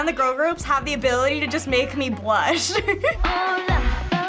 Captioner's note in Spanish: risitas; cantando en coreano